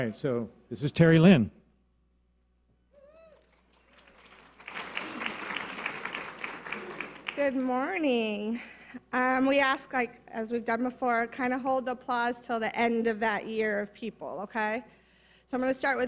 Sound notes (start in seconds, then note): 3.0 audience cheers and applause